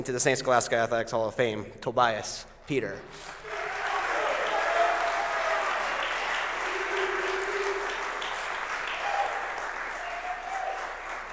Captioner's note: applause